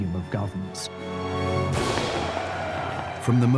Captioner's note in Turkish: kalabalık tezahürat